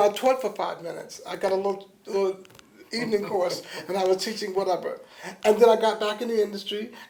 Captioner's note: laughter